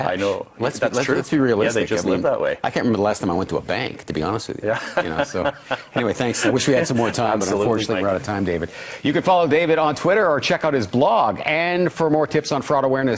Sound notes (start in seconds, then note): 4.7 laughs